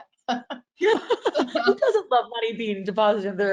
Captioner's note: laughing